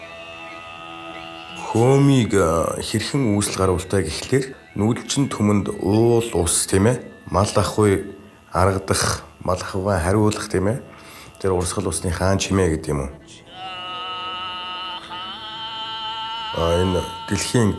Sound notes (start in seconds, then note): 1.3 speaking foreign language